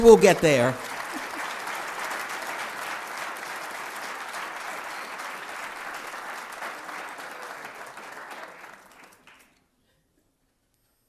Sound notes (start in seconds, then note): 3.6 applause